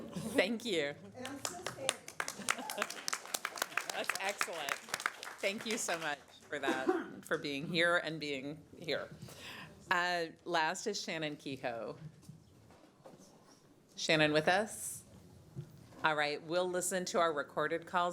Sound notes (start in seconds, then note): 6.2 applause